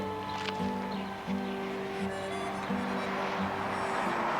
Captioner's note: engine rumbling